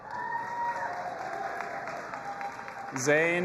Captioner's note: audience applauding and cheering